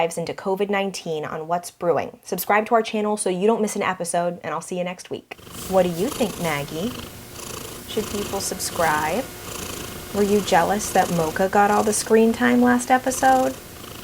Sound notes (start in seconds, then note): 9.4 purr